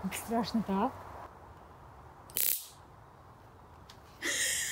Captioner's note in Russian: треск электрошокера